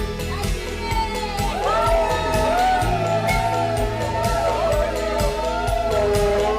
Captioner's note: cheers